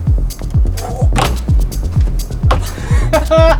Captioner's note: feet hitting on board; laughs